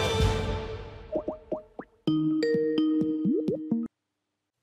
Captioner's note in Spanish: Suena llamada de Skype